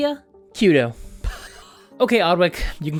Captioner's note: poof